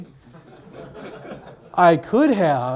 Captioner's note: audience laughs